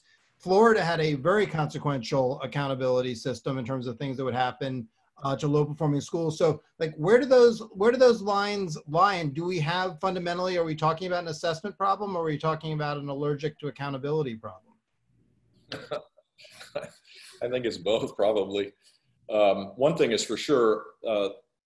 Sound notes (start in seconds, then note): 16.5 chuckles